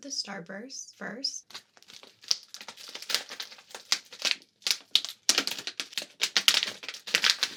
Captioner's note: asmr sounds